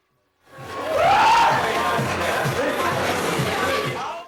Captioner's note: hoots loudly